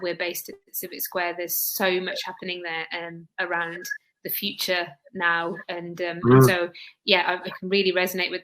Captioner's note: erm